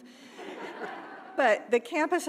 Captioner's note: audience laughing